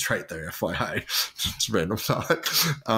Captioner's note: laughs